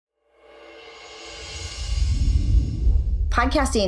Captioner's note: air whooshing